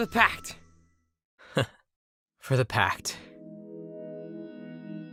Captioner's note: laugh